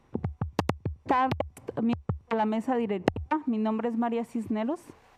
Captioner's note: speaking Spanish